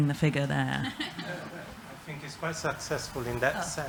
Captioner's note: laughter